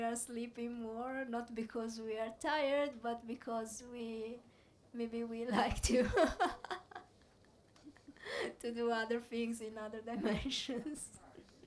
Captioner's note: laughs